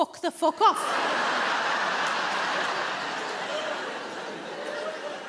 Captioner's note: audience laughing